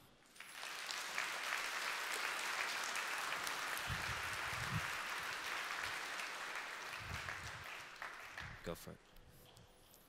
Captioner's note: applause